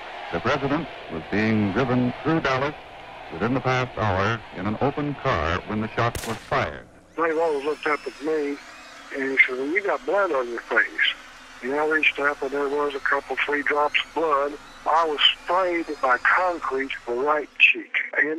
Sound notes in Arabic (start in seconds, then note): 6.0 دويّ إطلاق النار